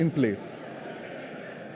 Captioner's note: laughter